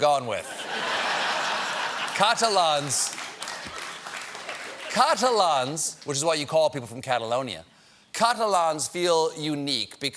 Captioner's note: laughter